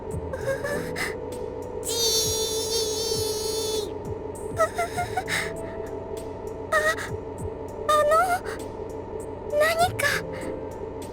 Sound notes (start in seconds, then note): 0.4 panicking breath; 4.6 panicked breath